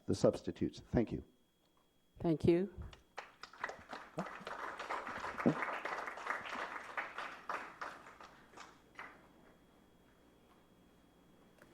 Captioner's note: applause